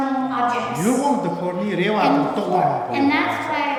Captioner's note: speaking tibetan